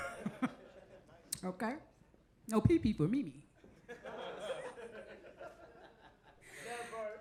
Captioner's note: audience chuckles